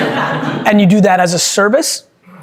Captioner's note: group laughing